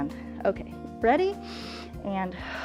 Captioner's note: inhales